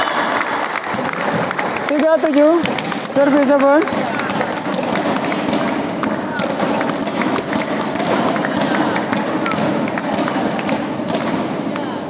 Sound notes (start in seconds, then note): 0.6 applause